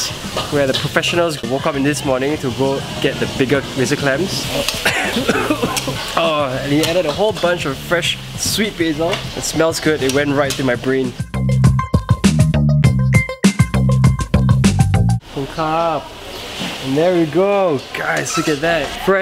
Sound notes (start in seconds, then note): 4.5 coughing